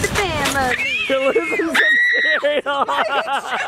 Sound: screaming

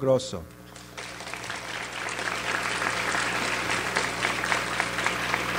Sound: audience applauds

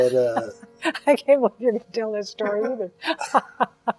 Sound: laughs

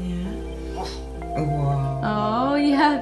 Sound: african gray woofs

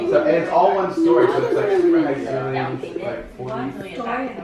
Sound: children laughing; background chatter; voiceover; background chatter

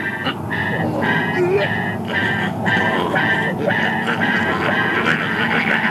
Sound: choking Sounds

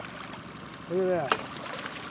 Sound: fish splashing

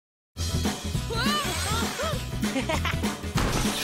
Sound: Cozmo whirring; Cozmo laughs; objects thud

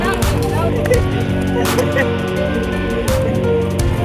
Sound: laughing

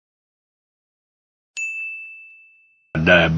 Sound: bell ding

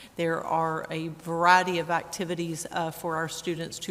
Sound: none

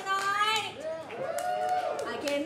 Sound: cheering

